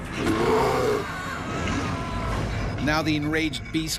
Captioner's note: voiceover; bear growling; yelling